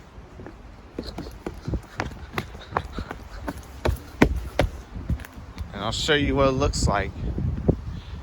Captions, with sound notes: -[footsteps on sidewalk] -[footsteps on stairs] And I'll show you what it looks like.